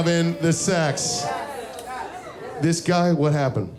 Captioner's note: murmuring